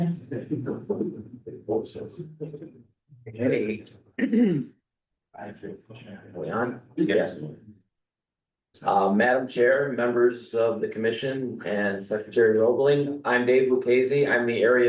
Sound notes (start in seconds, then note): 0.3 clears throat